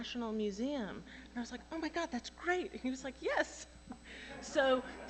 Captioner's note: laughter